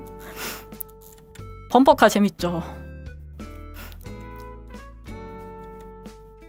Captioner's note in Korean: 콧방귀